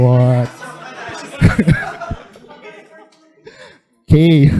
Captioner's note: laughter